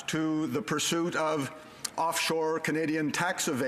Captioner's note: speaking French